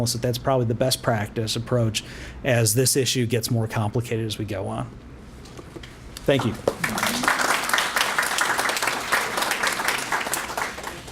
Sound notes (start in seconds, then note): 6.3 applause